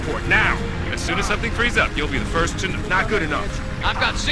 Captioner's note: radio